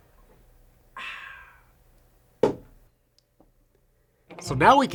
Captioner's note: exhales